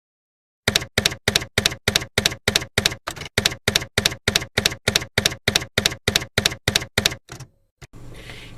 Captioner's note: typewriter keys clacking